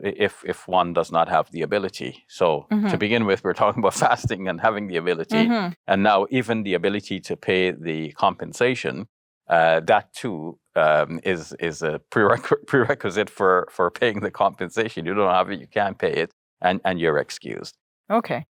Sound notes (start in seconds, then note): 5.3 sighs